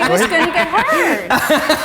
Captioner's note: laughing